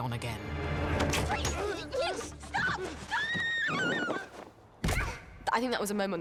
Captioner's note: screams